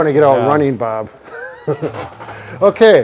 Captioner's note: men chuckling